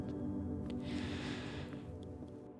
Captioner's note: sighs